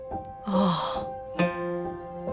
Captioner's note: saddened sigh